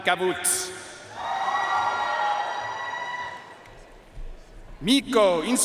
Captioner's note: audience cheering and applauding